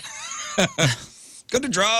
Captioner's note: laughing